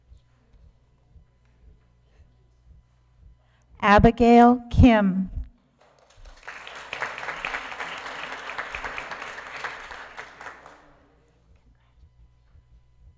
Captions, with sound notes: Abigail Kim (Applause)